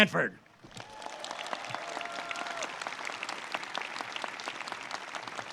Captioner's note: audience cheers and claps